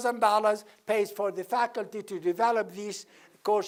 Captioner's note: none